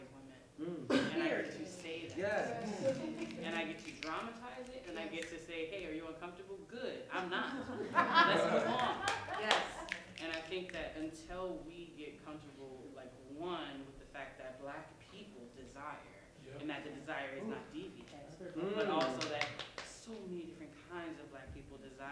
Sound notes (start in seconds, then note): 7.4 laughter